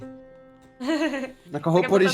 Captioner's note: laughs